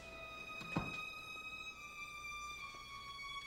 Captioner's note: door closes